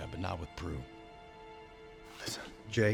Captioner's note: whispers